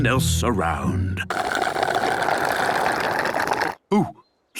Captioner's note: slurping